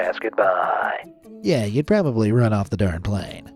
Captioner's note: in normal voice